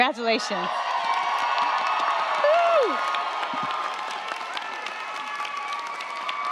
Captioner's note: crowd cheering; crowd clapping